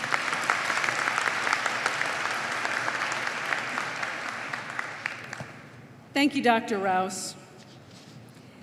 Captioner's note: applause